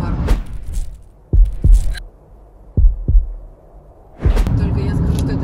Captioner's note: heartbeat